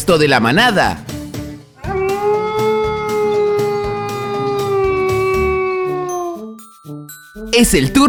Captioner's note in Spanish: Sonido de Lobo